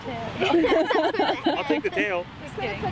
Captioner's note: all laughing